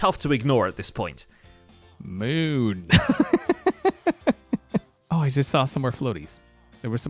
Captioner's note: chuckles